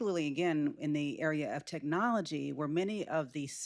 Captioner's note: none